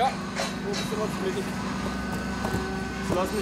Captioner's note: snatches of conversation, roar of machines